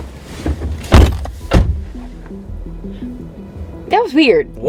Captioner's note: car doors slam